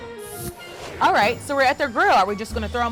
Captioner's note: graphics whooshing